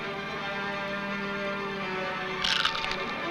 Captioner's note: he crunches